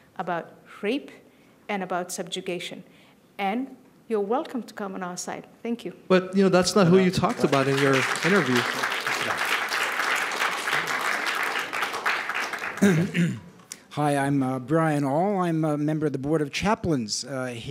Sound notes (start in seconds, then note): 6.8 applause